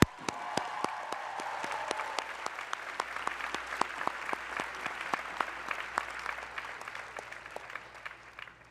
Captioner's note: cheers and applause